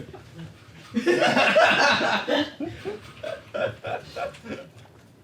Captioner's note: all laughing